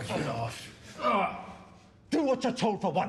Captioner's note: groans